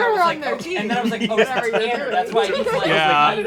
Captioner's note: laughing